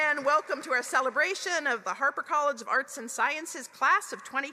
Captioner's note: applause